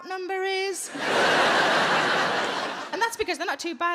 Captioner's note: audience laughing